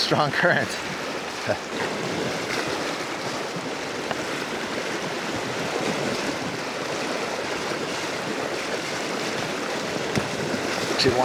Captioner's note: water flowing